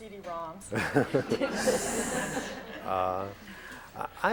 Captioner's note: laughter